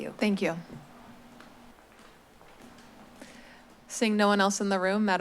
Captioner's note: silence